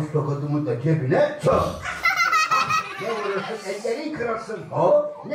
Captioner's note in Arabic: بالتركية; ضحك الأطفال